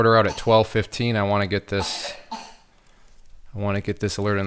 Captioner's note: coughs